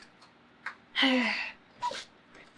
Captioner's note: sighs